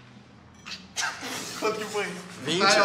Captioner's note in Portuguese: Risadas